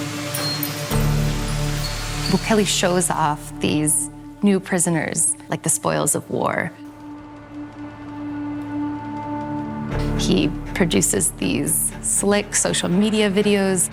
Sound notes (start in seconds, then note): none